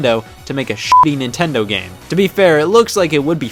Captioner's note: beep